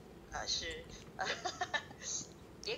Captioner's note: laughter